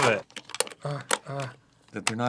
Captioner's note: soft struggling